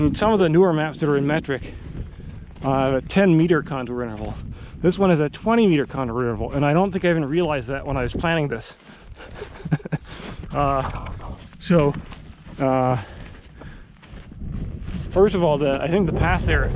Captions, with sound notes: And some of the newer maps that are in metric have a 10 meter contour interval. This one has a 20 meter contour interval, and I don't think I even realized that when I was planning this (laughs). So, first of all, I think the pass there,